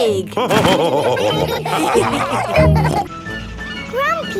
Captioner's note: all laughing